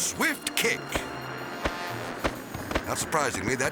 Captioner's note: whimsical music continues; foot tapping